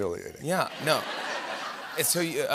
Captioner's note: laughter